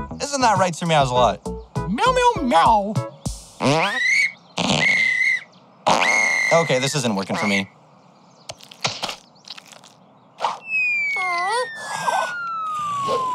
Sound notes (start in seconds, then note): 1.5 meows; 3.5 farting and whistling